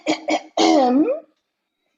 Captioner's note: clears throat